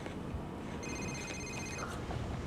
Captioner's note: cellphone phone rings